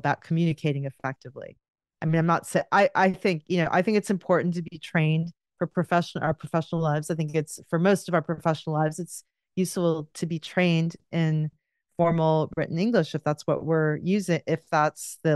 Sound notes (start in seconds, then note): none